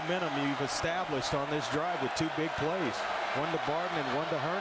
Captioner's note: crowd noise